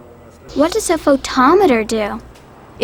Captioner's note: voiceover